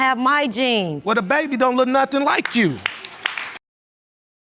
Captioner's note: scattered applause